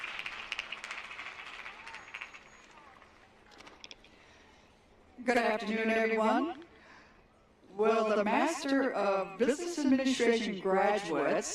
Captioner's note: applause